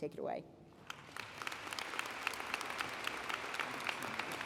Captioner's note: applause